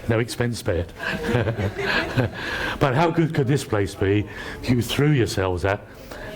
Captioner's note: laughter